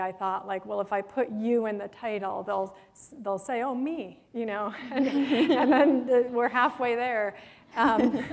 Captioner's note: chuckle